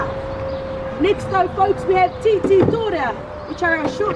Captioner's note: speaking Maori